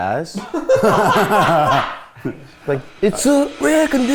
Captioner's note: all laughing